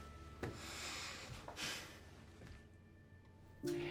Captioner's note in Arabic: تنهدات